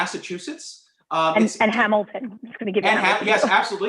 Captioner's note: laughter